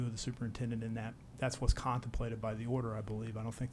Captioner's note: none